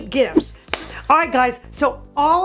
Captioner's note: claps hands